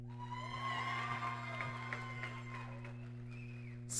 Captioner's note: applause